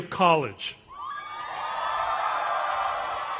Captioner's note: cheers and applause